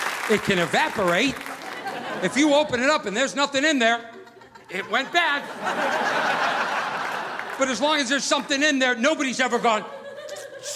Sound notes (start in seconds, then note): 6.0 audience laughing